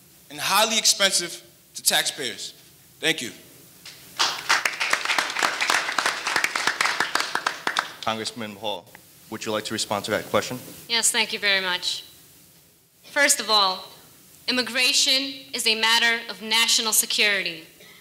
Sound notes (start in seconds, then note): 4.1 audience applauding